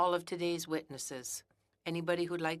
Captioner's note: speaking French